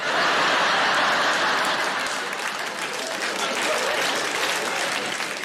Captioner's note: audience laughing and applauding